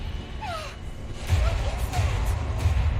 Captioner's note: groans